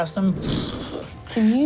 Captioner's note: fire whooshing